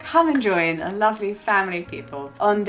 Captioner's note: none